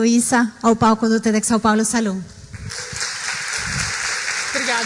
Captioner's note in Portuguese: applause